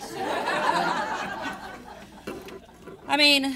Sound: audience laughing

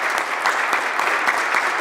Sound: applause

